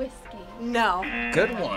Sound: audio buzzes

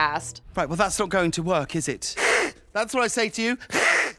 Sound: hisses

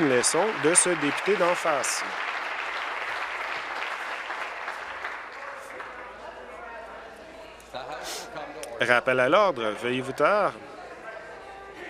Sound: applause

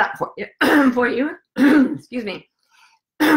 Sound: clears throat

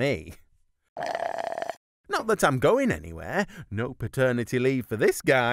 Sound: slurps drink

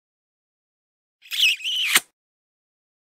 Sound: sound of kiss

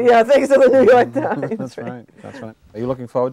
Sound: chuckling

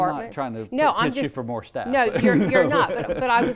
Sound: laughs

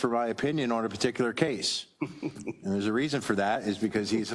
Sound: laugh

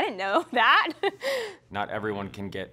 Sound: laughs

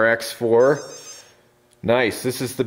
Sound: beeping

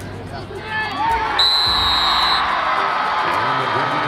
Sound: crowd cheers

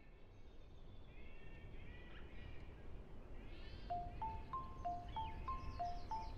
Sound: birds chirping

